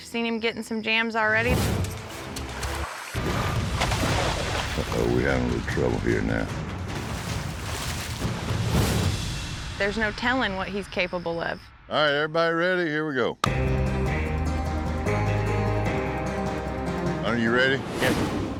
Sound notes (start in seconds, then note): 1.5 flashback, water splashing; 6.8 splashing; 13.4 claps hands